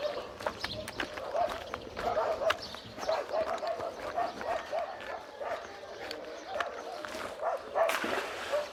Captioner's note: dogs barking; gun splashes